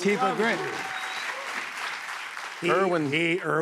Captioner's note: cheers and applause